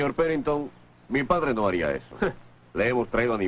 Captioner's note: scoffs